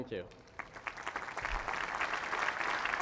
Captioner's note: applause